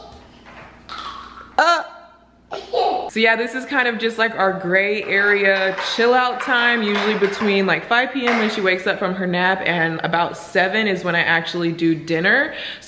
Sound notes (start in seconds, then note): 2.2 laughs